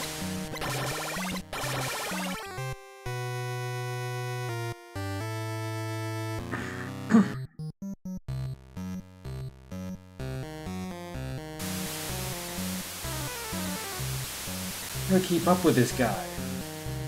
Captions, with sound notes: [clears throat] How do I keep up with this guy?